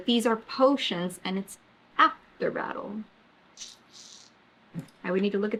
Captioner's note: sucks teeth